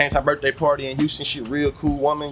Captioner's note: birds Chirping